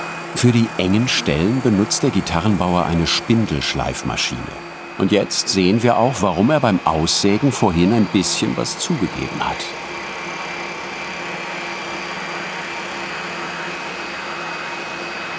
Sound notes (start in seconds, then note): 10.7 buzzing noise